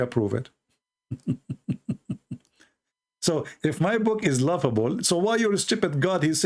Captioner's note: Ketawa